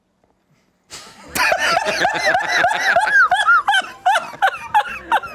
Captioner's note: everyone laughs